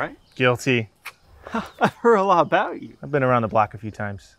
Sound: laughs

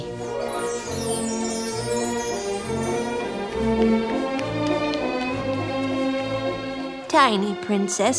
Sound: magical noises

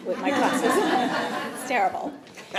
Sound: attendees laughing

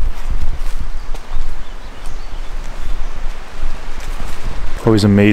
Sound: water flowing; birds chirping

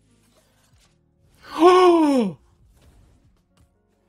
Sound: gasps

